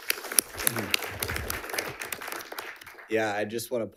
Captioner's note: audience applauds